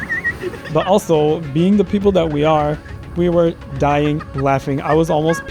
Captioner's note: laughter; clears throat and laughter